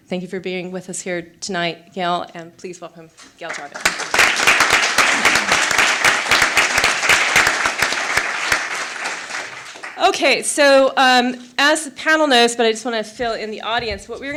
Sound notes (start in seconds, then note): 3.4 applause